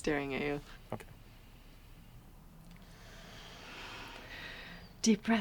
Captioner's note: inhales deeply